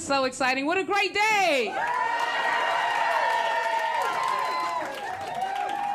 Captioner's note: cheering